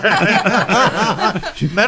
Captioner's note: laughing